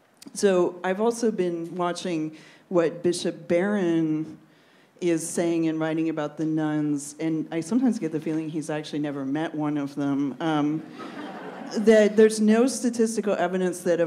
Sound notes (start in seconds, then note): 10.9 laughs